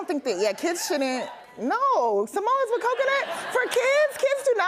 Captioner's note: audience cheers